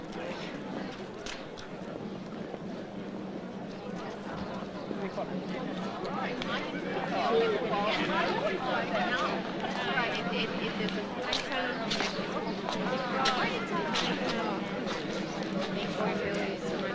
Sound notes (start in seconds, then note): 6.1 overlapping chatter; 6.1 slow drum playing